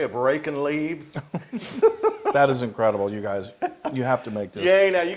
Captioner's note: laugh